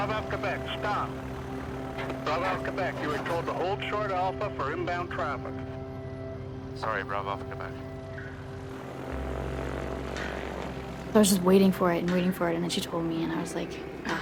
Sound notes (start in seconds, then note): 9.7 airplane rumbles